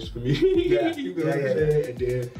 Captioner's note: laughs